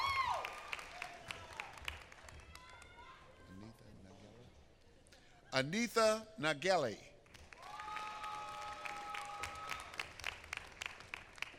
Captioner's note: applause